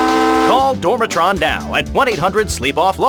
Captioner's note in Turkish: Bir yolcu gemisinin kornası duyulur